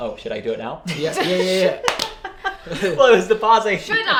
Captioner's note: laughs